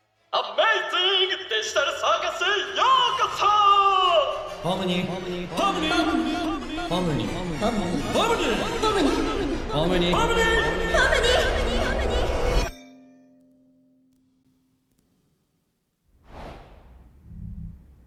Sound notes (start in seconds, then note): 0.5 voices echoing throughout